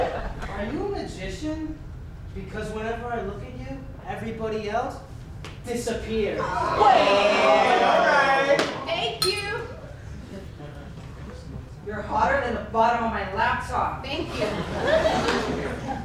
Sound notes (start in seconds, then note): 6.4 the men yell and laugh together; 9.2 ding